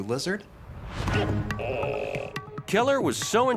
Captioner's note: dramatic music; gecko croaking